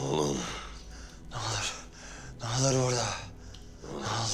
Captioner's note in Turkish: Hırıltılı nefes sesleri